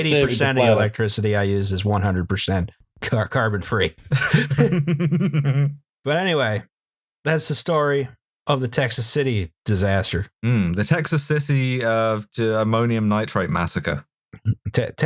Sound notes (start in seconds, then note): 4.1 laughter